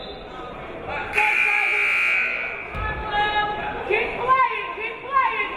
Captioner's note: whistle blows; buzzer blares